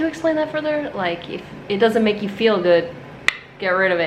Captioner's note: clicks tongue